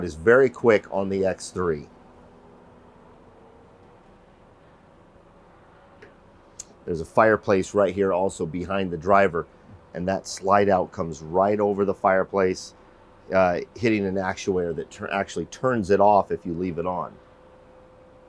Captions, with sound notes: is very quick on the X-3. (slide whirring) There's a fireplace right here also behind the driver. And that slide out comes right over the fireplace hitting an actuator that actually turns it off if you leave it on.